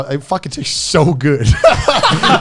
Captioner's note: laughing